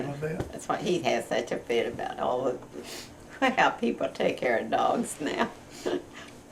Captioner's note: laughs